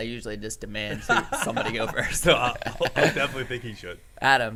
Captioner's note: laughs